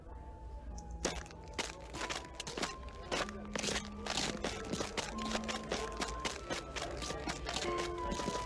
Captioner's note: footsteps on gravel recede